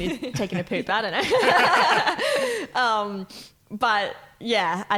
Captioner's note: laughing